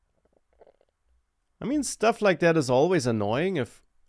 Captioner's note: sips water